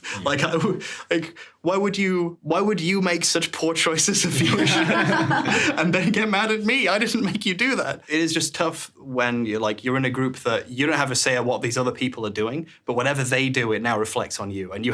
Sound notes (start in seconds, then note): 0.0 chuckles; 4.3 everyone laughing